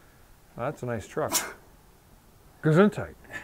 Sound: sneezes

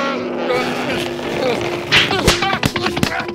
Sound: slapping noises

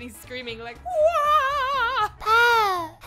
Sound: screaming

